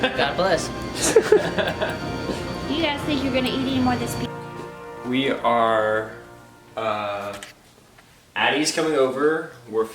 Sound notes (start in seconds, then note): 1.0 laughing